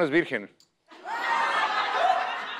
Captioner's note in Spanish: Risas